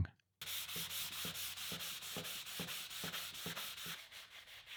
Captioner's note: sandpaper rustling